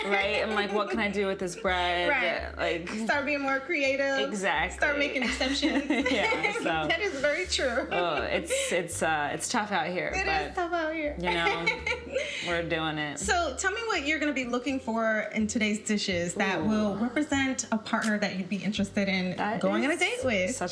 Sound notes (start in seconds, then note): 11.2 chuckles